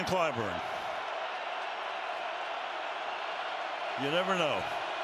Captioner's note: cheering